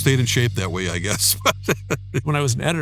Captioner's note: laughing